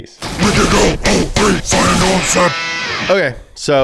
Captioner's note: demonic Voice